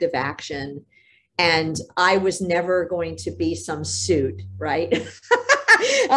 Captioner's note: laughs